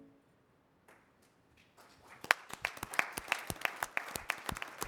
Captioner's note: applause